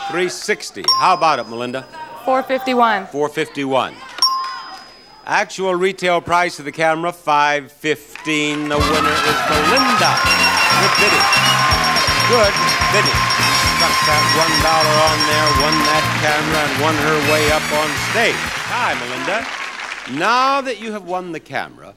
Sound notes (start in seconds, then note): 11.1 audience cheering; 11.1 bell dinging